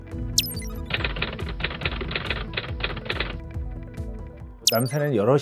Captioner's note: typing sound